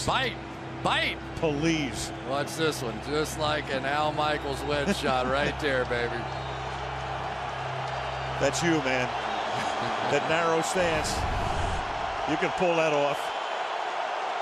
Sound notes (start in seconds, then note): 9.6 chuckles